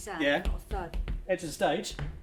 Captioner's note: feet stamping; feet stomping